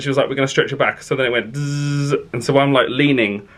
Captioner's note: mimics buzzing